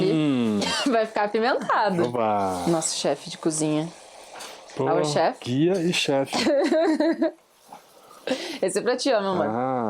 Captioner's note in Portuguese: risadas